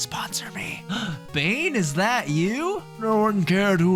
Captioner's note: gasp